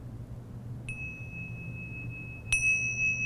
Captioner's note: dings bell